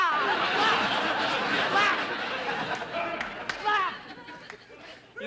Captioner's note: shouts; imitates clucking